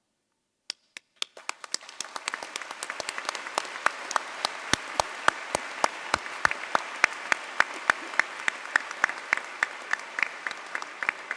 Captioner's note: applause